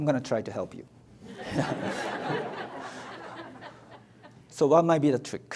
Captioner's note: audience laughs